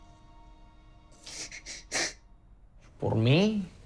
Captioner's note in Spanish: llora